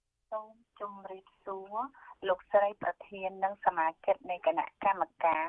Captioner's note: speaking a foreign language